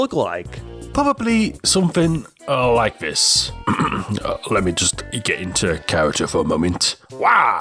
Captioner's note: ahem